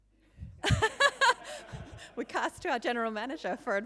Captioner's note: laughing